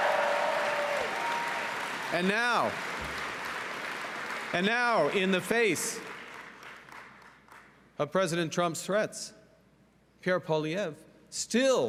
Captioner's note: cheering and Applause